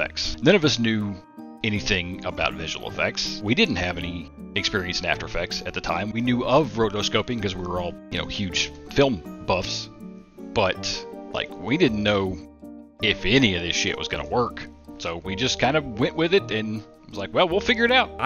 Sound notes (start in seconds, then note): none